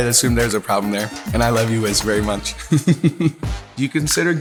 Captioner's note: laughs